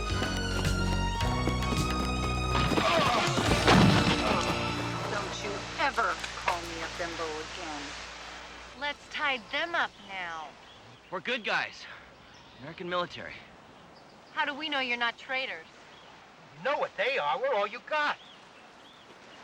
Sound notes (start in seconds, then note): 1.9 bodies thudding; 2.6 men groaning